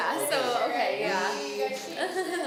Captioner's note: laughing